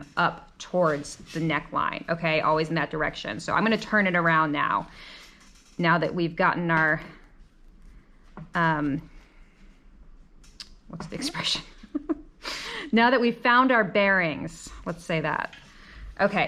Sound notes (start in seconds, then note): 10.1 laughs